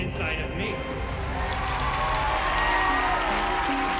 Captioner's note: cheering and applause